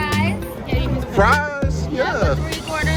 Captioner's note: server speaks faintly